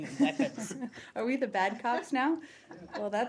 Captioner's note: laughter